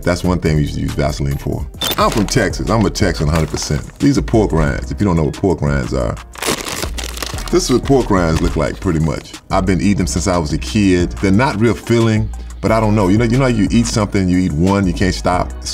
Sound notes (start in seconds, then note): 6.3 paper rustles